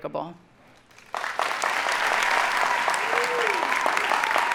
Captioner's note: audience applauding